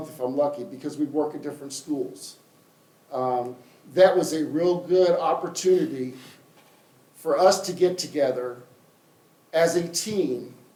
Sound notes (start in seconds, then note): none